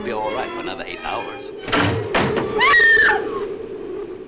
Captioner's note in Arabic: صوت مصراع النافذة; صرخة آن; عواء الريح